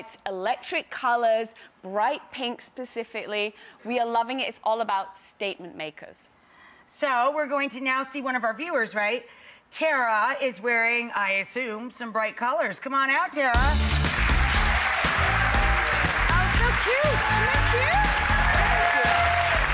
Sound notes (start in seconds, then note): 13.6 audience clapping